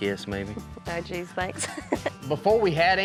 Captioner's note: chuckles